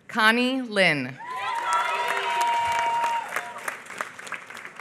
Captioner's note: applause